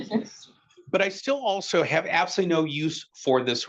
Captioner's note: attendees laughing